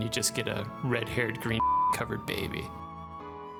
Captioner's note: beep